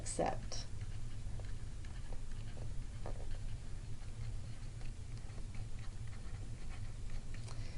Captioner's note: writing